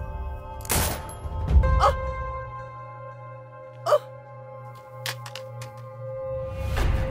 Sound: Jenny screaming; gunshot fired

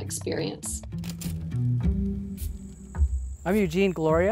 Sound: lamp clicking

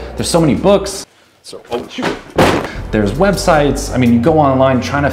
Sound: sound of books falling

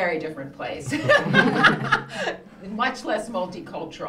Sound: all laughing

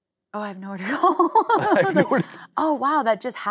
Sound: laughing

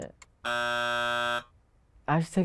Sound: buzzer rings

